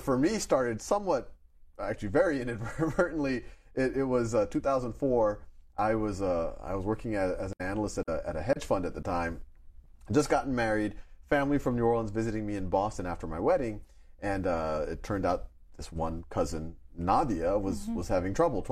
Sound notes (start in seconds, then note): 3.4 chuckles